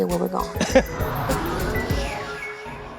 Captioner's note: laughs and engine revs